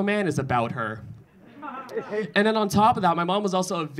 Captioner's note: audience laughing